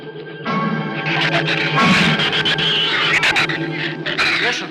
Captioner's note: shrews screech